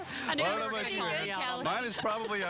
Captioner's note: laughing